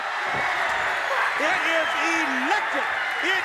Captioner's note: crowd cheering